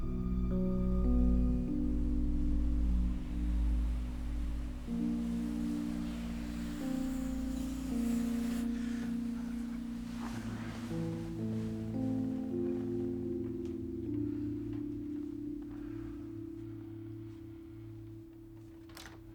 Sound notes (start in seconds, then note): 1.1 gentle music; 7.2 truck whooshing; 11.5 gentle music